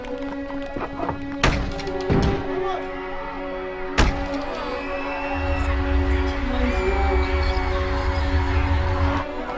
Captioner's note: door opening, cinematic music; kids screaming